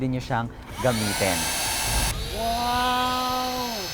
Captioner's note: 70mai Vacuum Cleaner Swift starts